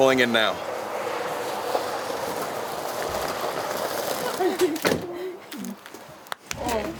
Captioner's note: car engine lightly whirring; footsteps lightly treading